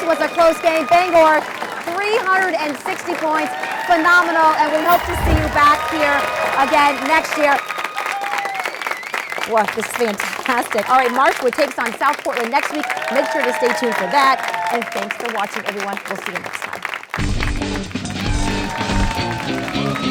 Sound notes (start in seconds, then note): 6.7 applause; 16.7 upbeat guitar music